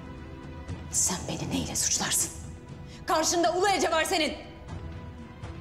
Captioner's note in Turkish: none